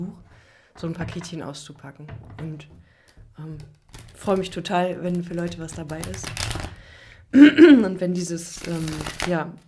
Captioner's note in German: räuspern